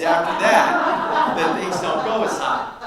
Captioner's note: audience laughs